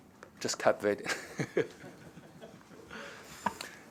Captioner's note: laughter